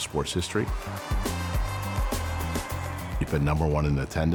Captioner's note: crowd shouting